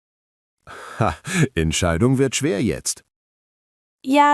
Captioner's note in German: lacht